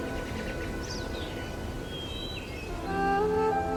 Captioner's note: bird chirping